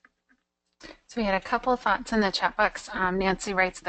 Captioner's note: voiceover